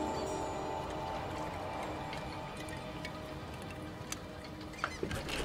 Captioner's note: seagulls squawking